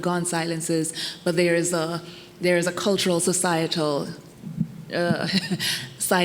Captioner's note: laughs